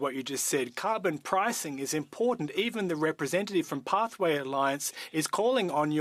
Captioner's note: speaking French